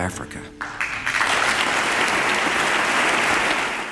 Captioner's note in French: applause